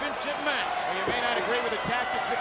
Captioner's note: audience cheering